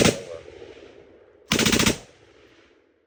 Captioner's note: gun firing